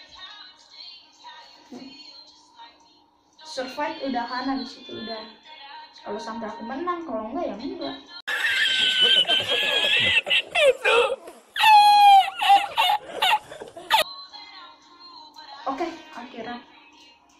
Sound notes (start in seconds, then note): 10.1 dramatic laugh